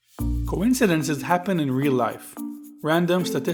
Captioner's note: voiceover